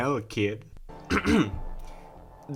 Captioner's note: clears throat